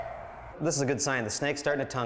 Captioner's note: beeping sound